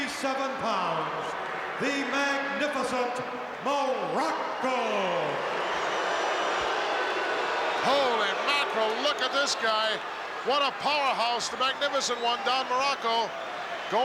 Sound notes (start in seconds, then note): 4.8 crowd boos